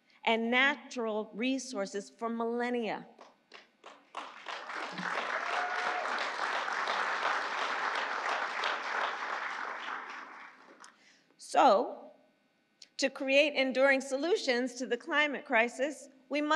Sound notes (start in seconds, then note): 3.5 applause